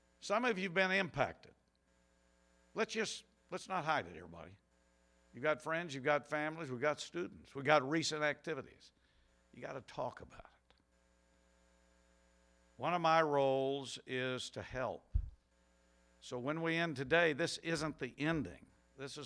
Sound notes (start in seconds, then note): none